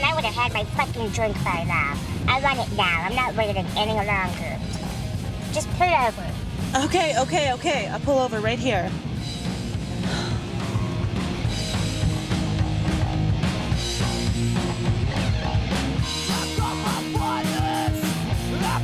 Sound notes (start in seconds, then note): 10.0 sighs; 11.7 dramatic rock music